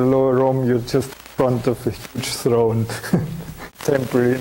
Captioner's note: chuckling